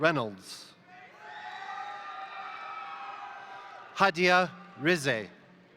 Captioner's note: crowd cheering; crowd applauding